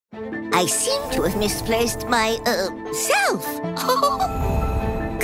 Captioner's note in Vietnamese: cười